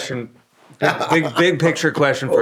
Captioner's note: laughing